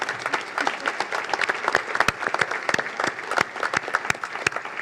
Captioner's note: applause